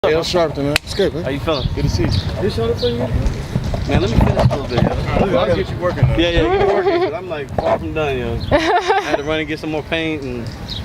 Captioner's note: chatter